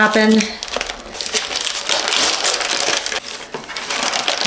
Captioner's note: paper crinkling